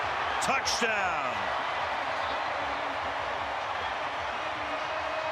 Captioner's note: crowd cheering